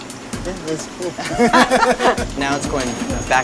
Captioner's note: laughs